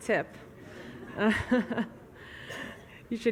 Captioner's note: laughs